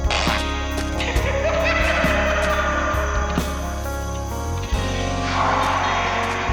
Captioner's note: cackles